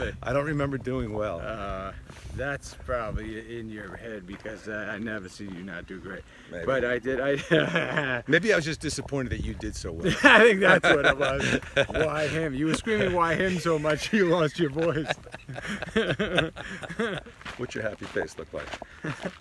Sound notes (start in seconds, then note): 7.3 laughs; 15.4 laughs